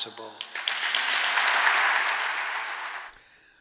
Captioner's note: applause